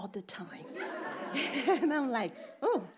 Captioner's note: audience laughing